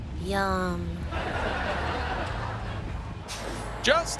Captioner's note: audience laughing